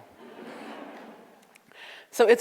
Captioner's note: audience laughs